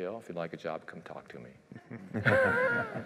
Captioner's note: laughter